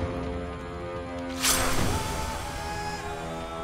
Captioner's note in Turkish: Kılıç sesi